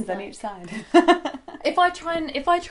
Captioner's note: laughter